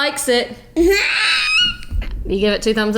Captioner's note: laughing